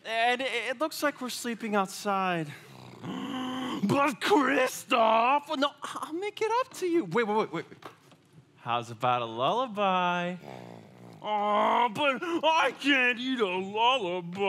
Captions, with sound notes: And it looks like we're sleeping outside. (Sven sighs) - But Kristoff. - No, I'll make it up to you. Wait, wait, wait, wait. How's about a lullaby? (Sven grumbling) - Oh, but, I can't eat a lullaby.